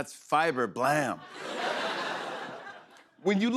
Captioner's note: laughter